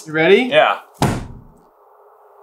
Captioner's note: thud